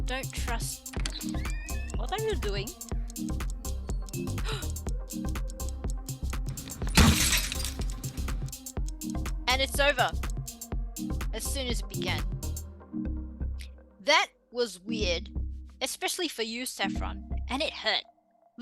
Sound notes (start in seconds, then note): 0.9 A door opens